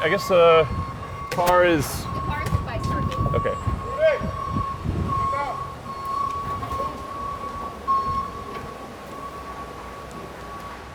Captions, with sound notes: I guess the car is? (woman speaks off mic) Okay. (machines beeping)